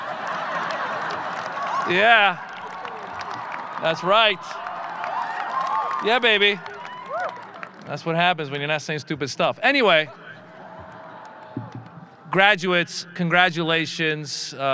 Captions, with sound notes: (audience laughing) Yeah, that's right. Yeah, baby. (audience cheering) That's what happens when you're not saying stupid stuff. Anyway, graduates, congratulations.